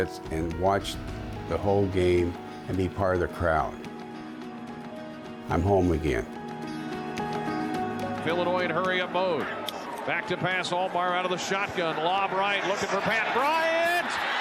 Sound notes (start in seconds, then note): 8.1 radio call